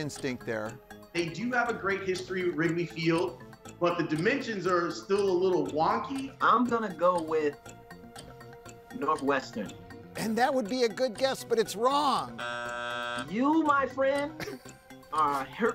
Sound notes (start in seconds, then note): 12.3 buzzer buzzing